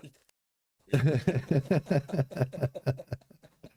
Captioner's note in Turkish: kahkaha